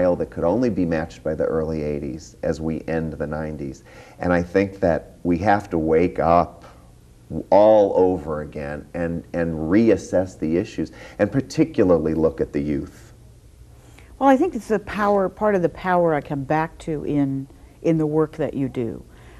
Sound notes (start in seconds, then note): none